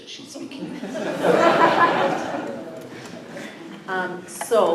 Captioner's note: laughter